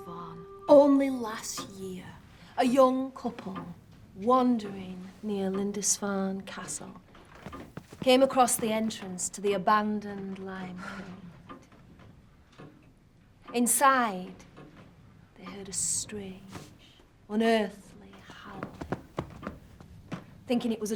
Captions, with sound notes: The Ghost Dog of Lindisfarne. Only last year, a young couple... wandering near Lindisfarne Castle... [clock ticking] ...came across the entrance to the abandoned limekilns. Inside... they heard a strange, unearthly howling.